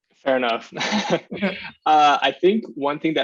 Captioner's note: chuckles